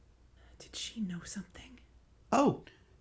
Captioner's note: whisper